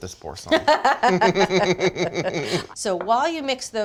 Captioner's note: both laughing